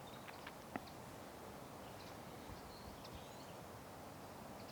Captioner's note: birds chirping